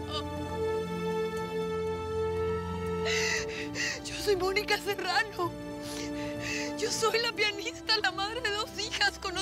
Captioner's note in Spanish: sollozos; llanto